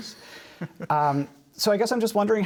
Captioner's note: laughter